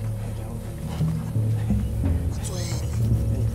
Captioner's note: Both Chuckling